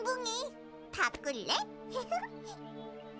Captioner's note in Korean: 웃음소리